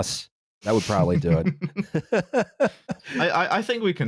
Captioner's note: chuckles